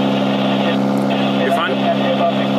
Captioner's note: radio message